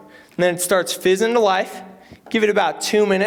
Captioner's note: none